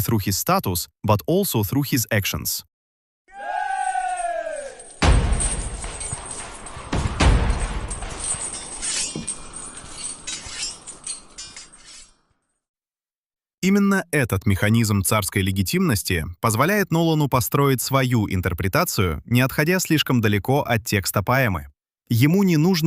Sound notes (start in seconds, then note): 5.0 воинственный крик; 12.6 звуки борьбы